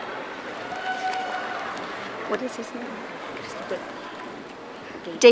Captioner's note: audience cheering